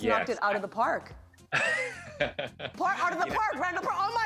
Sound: laughs

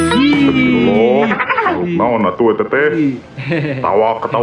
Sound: chuckling

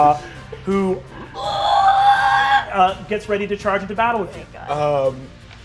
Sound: screeches

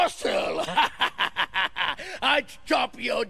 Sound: laughs

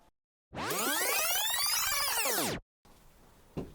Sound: VHS rewind

